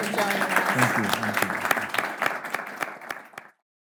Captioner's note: applauding